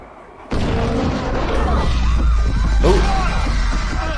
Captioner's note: crashing metal; people screaming